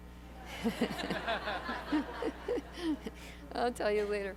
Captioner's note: laughter